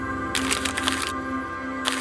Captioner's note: instrumental music; instrumental music continues; rustling sound